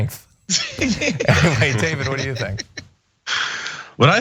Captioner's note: laugh